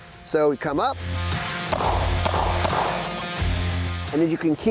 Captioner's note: gunshots